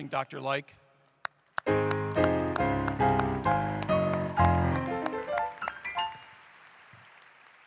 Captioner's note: applause